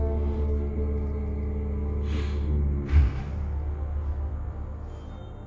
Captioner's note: Bigfoot snorting